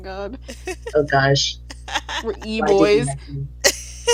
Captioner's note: laughing